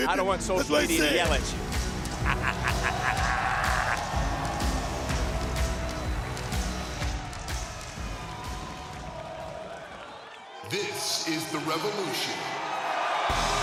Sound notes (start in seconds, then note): 2.3 audience cheering; 2.3 dramatic music; 13.3 upbeat lively music; 13.4 audience cheering